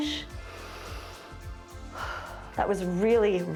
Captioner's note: inhales and exhales